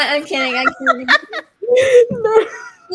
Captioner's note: all laughing